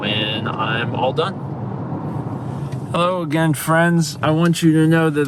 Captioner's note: slurring slightly